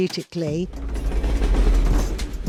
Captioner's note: train rumbling, chugging past